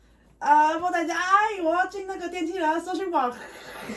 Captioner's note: static